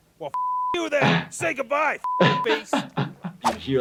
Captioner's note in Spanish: se ríe